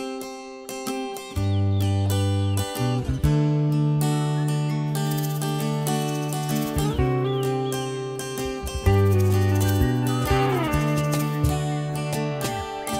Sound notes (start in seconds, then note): 0.2 guitar strumming; 5.5 birds tweeting